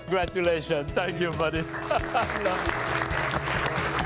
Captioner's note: all applauding